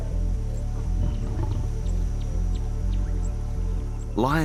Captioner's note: growls softly